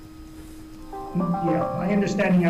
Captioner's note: phone chimes